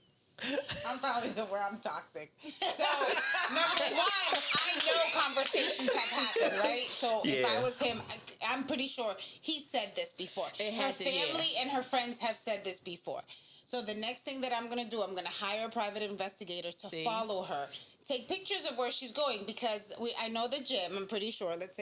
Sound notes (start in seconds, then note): 2.5 laughing